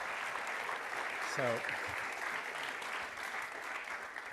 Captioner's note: applause